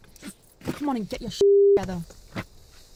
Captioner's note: zipper zips